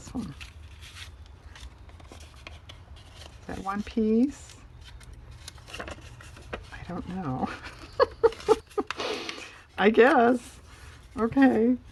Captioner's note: laughs